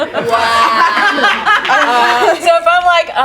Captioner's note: group laughs